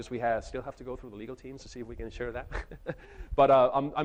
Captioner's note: chuckles